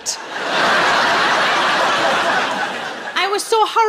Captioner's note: laughing